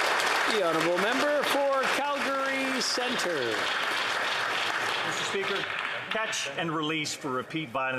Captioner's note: applause